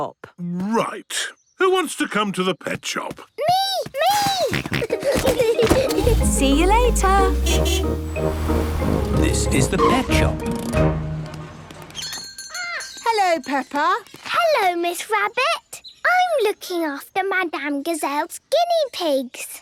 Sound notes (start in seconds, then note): 4.1 snorting; 4.1 kids giggling; 5.8 honking; 11.9 bell jingling